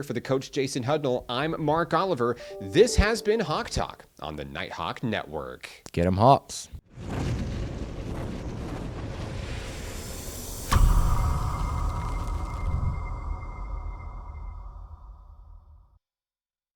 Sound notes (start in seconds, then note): 7.4 wind blowing; 10.6 high pitch pop